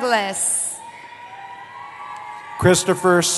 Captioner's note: cheering